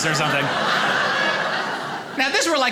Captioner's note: audience laughing